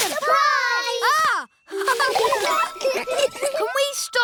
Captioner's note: gasps; all laughing